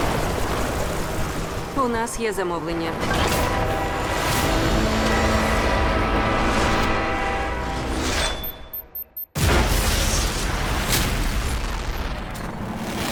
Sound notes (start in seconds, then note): 3.0 train horn blaring; 8.2 beeping